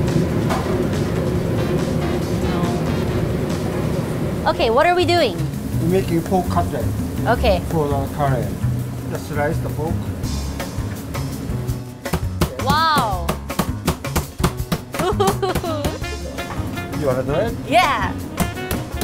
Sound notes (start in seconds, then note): 0.2 lively jazz; 13.2 hammer banging; 15.0 laughing nervously